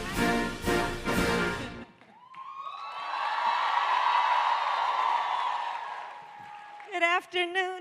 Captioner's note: applause